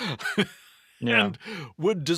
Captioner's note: laughs